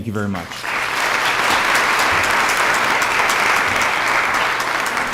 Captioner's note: applause